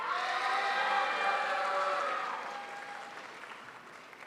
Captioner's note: crowd applauds